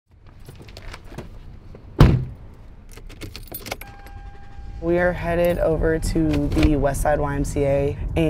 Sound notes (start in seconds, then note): 1.9 car door slams; 2.8 car keys dangling